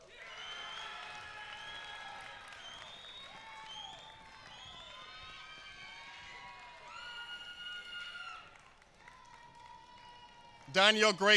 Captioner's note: applause